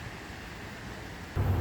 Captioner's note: car hood opens